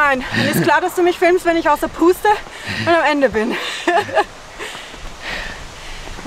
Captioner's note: laughter